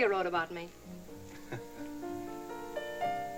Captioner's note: chuckles